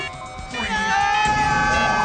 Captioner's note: screams